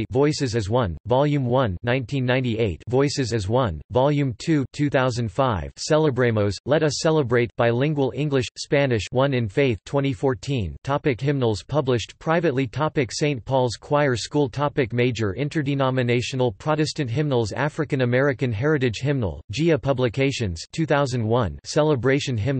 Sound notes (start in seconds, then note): 7.7 bilingual English/Spanish